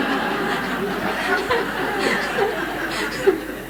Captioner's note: laughter